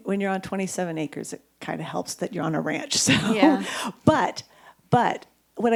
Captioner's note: chuckles